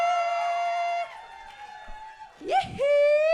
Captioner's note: cheers and applause